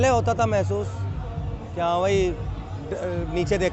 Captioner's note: none